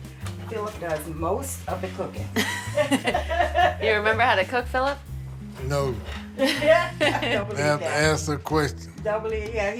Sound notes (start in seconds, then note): 2.4 laughs